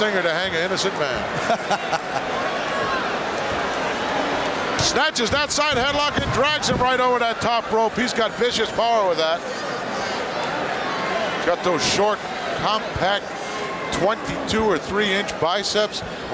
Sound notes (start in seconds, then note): 1.2 Pat laughs